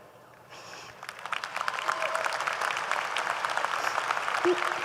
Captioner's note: audience applauding